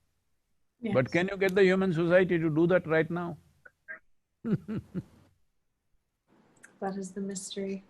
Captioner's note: laughs